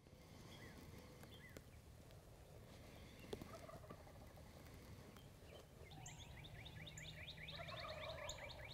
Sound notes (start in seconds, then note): 3.9 turkey calling